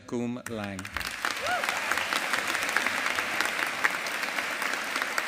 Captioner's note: audience applauding